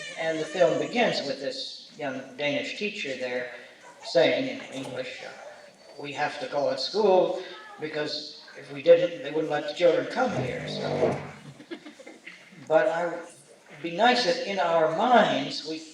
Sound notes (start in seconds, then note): 11.5 laughter